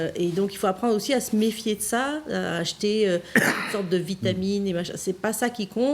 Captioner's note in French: raclement de gorge